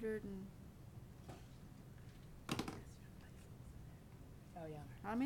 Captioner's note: whispering